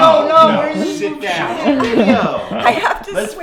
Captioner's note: laughter